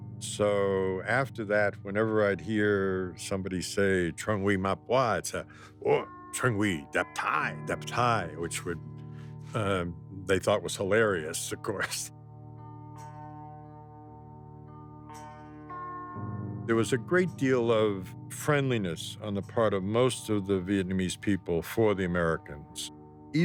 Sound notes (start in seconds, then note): 4.2 speaking foreign language